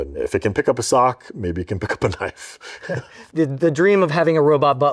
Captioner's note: chuckles